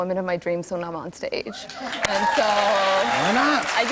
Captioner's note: cheers and applause